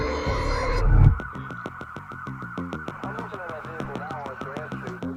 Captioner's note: distant police sirens & radio chatter